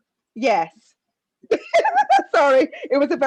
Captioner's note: laughs